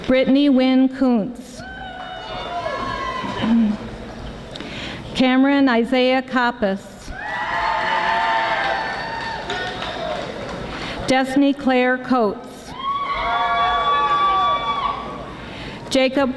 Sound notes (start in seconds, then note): 7.3 audience applauding; 12.9 audience applauding